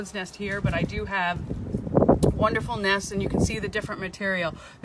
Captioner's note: wind in microphone